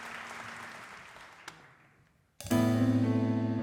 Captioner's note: audience applause